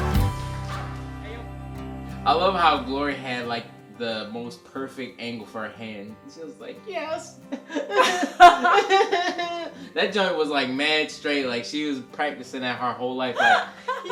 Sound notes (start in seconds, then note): 7.2 crying